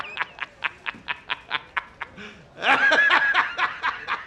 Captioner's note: laughing